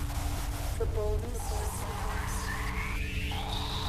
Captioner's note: static; murmuring